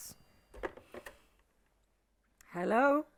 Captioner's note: phone rattling